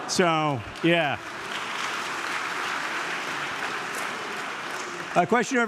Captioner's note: audience clapping